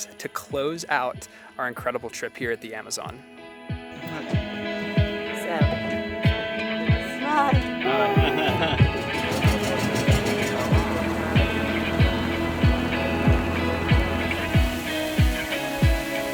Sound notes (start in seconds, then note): 9.3 motor engin droning; 12.0 upbeat music